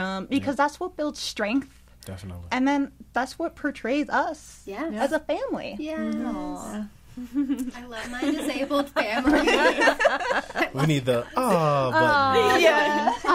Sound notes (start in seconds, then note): 9.7 all laughing; 13.1 everybody awws